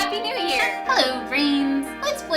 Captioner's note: party Horn